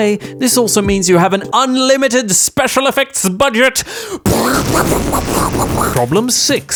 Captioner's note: crazy explosion sounds bang bang